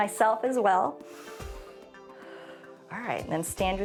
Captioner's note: inhales and exhales